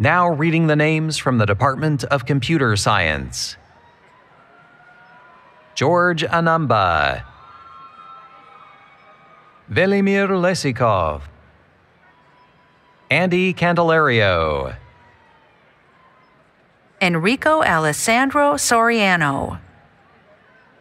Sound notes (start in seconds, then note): 8.0 cheering